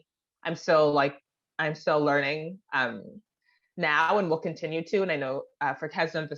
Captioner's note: repeats in French